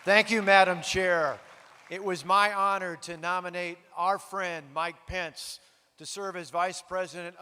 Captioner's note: applause